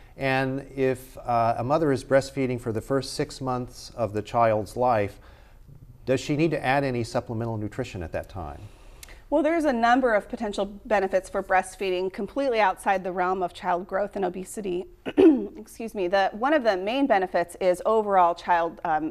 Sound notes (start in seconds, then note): 15.0 clears throat